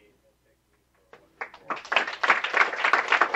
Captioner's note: clapping